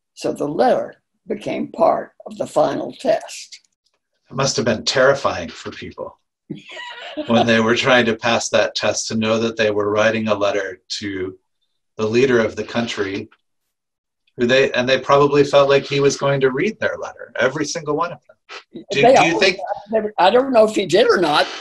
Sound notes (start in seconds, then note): 6.6 laughing